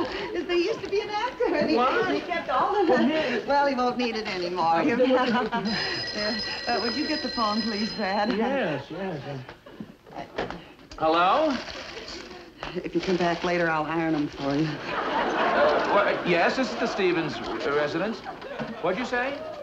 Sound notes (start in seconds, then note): 5.2 telephone rings